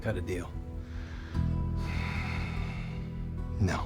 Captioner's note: sighs deeply; scottish accent